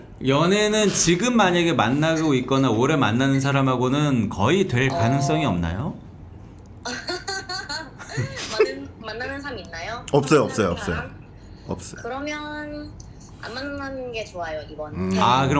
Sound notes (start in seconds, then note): 6.8 laughing